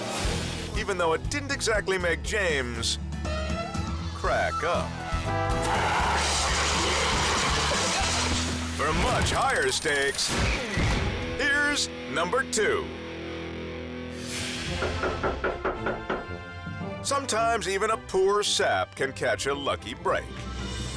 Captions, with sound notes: (transition whooshes) Even though it didn't exactly make James crack up. (extinguisher sprays) For much higher stakes, here's number two. (hand knocks) Sometimes even a poor sap can catch a lucky break.